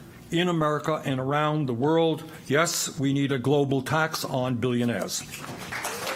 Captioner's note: applause